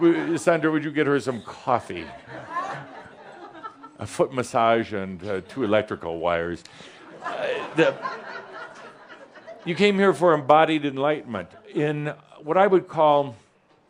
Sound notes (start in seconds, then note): 7.5 some chuckles